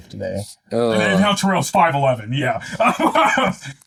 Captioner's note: laughs